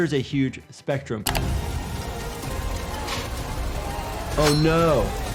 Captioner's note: dramatic music; metal grinding